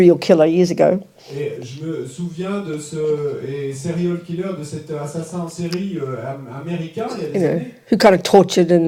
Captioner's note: French